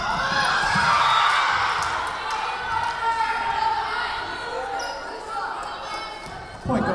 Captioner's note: Lions cheering; whistle blowing